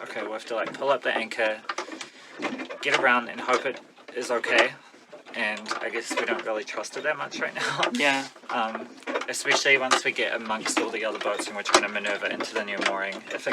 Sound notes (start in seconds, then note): 7.8 the motor